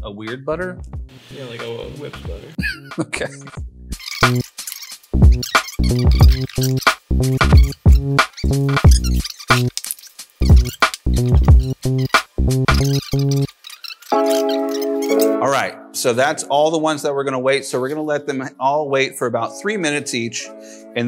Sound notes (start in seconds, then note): 2.6 laughs; 5.2 upbeat music